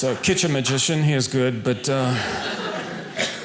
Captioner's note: audience laughing